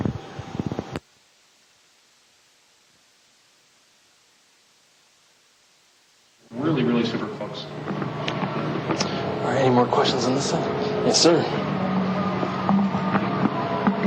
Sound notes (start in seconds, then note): 4.9 echo